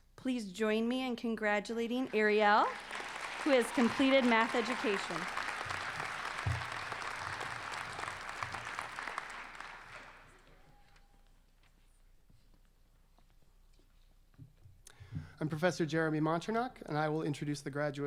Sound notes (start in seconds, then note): 6.3 applause